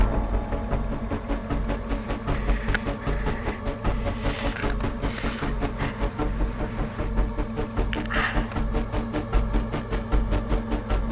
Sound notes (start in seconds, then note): 0.3 tense, suspenseful music; 3.9 Riley wincing